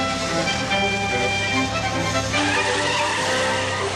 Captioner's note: tires screech